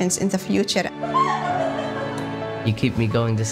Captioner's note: laughing